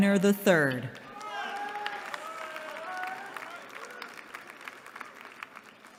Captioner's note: applause